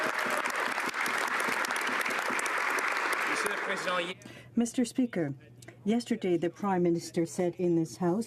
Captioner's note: some Applause